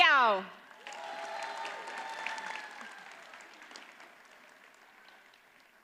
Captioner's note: audience cheers and applauds